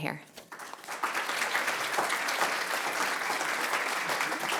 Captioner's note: applause